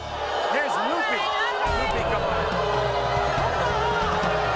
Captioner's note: audience booing